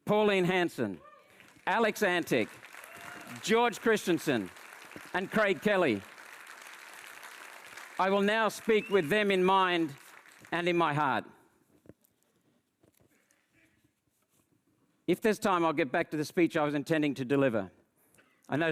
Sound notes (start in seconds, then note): 6.2 audience applauds